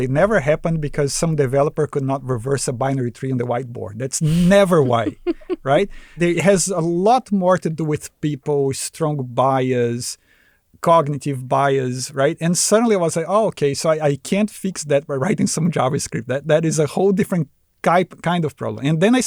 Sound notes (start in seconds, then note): 4.2 laughs